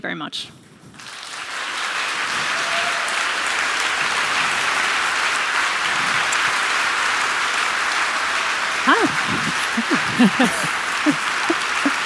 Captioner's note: applause